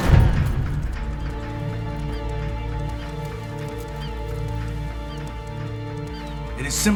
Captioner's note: birds cawing; tense music